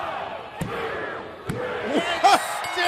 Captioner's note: crowd cheering